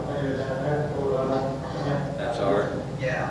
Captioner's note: man speaking on faint audio recording